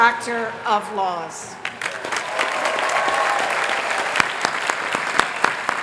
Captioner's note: applause